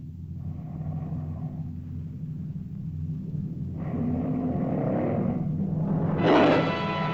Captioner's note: tense music; lizard growls; dramatic music; lizard roars